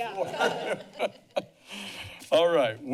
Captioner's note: laughs